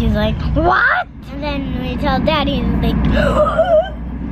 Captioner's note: gasps